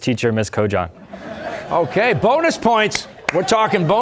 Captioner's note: laughter